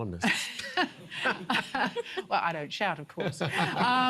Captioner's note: laughs